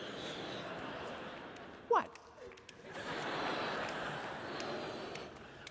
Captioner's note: laughter